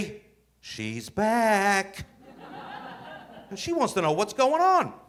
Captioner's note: audience laughing